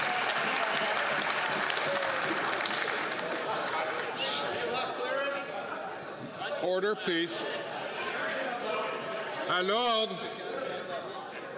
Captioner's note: some Applause